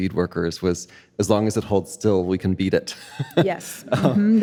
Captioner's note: chuckles